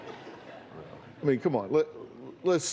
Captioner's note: laughter